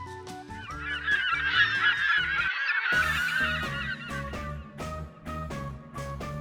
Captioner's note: seagull noises